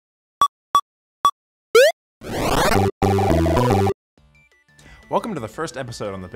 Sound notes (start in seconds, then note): 0.0 beeping